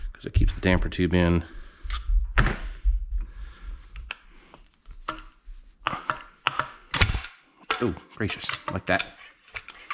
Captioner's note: metallic clack